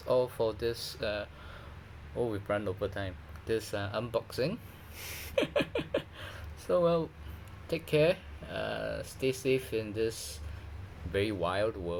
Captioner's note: more awkward laughter